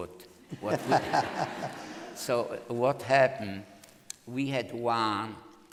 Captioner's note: laughter